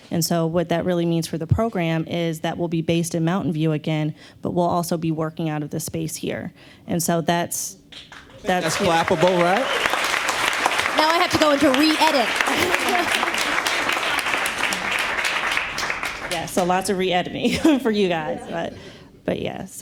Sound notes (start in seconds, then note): 7.8 clapping; 17.2 chuckles